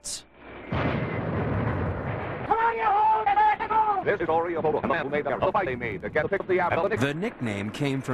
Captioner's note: old covelty war noises